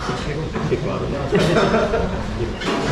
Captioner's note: laughs